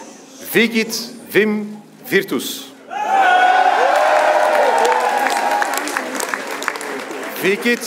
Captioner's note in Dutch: applaus